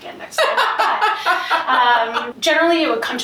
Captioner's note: laughs